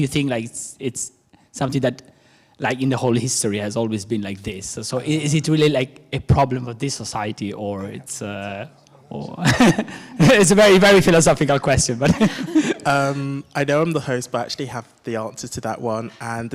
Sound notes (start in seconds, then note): 9.2 chuckles; 12.0 laughs